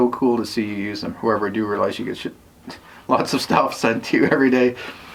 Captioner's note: chuckles